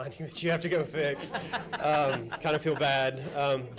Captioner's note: laughs